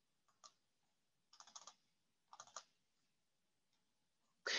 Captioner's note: clicking